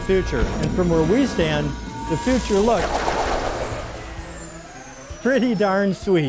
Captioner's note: lazer sounds